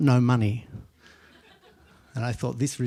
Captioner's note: laughter